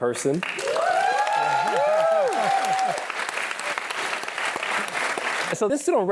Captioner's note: applause